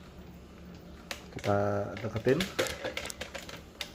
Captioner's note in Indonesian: suara mesin printer